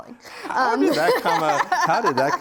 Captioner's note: laughs